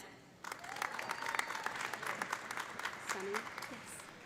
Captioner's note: audience applauding; audience cheering